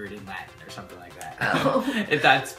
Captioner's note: laughs